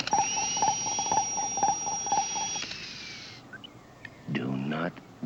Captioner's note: electronic whirring